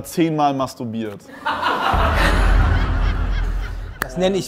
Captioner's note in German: Gelächter